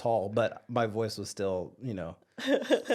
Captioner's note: whispers